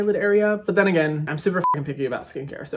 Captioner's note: beeping